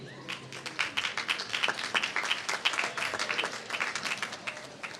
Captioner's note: applause